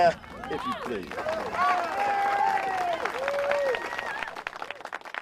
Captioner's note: crowd cheering; applause